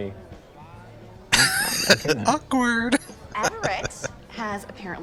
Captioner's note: laughing